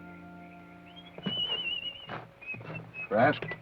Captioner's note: whistles melodically